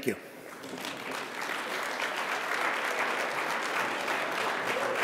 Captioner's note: audience applauding